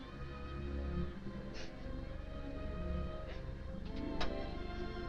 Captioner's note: Nora sniffling